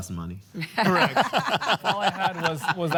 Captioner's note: laughter